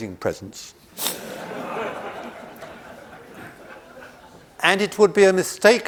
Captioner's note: audience laughs